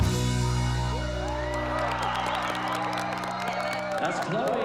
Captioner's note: applause